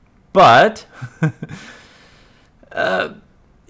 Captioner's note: laughs